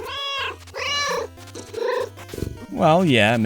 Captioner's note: meow